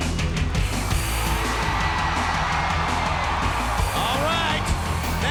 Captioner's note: crowd cheering; thrilling rock music